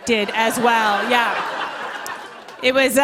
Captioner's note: laughter